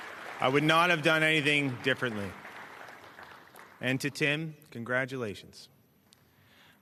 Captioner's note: cheers and Applause